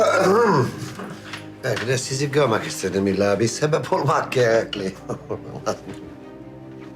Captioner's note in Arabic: يضحك